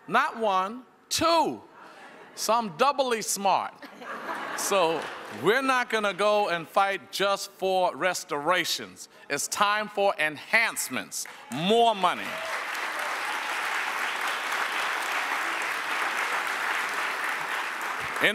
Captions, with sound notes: not one, two. So I'm doubly smart. (people chuckle) So we're not gonna go and fight just for restorations. it's time for enhancements, more money. (audience applauds)